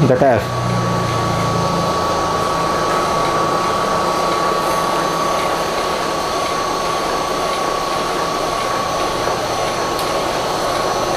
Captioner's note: printer machine sound